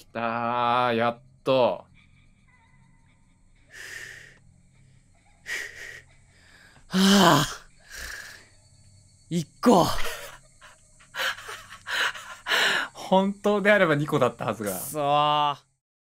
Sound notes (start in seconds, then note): 7.8 exhales in frustration